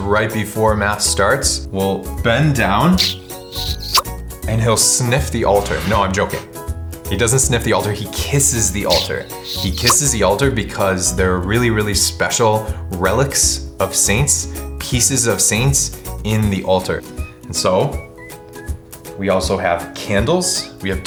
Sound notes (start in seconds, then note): 3.0 smooches